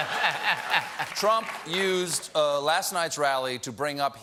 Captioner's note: cheers and applause